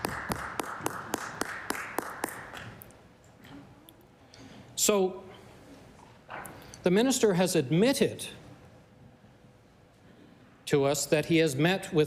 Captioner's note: applause